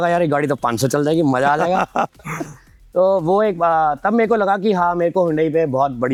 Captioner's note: laughs